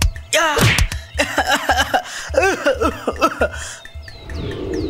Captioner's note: Anis Coughing